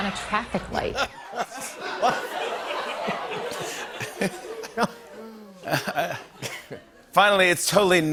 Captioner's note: laughter